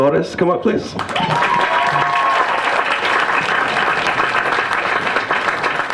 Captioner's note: applause